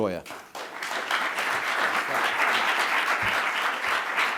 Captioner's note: applauding